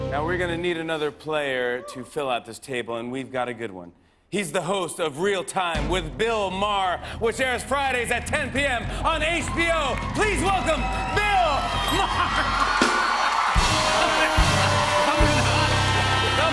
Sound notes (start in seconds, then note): 9.1 cheers and applause